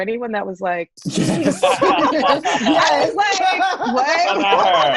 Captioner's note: all laughing